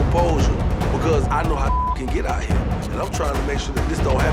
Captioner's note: beeping